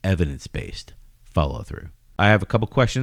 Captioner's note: uh